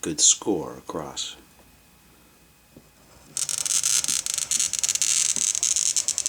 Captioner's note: glass cutting